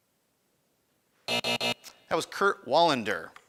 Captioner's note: buzzing